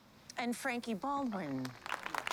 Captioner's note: applause